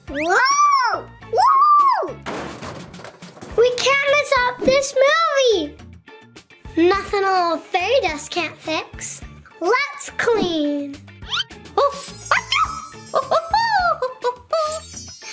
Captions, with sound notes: (monkey shrieking) (crashing lockers) - We can't mess up this movie. Nothing a little fairy dust can't fix. Let's clean. Oh. (monkey sneezes)